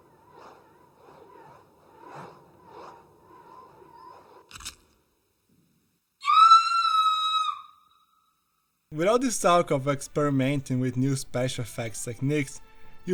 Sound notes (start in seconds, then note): 6.2 scream